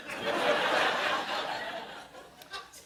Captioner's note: laughter